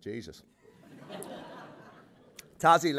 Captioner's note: laughter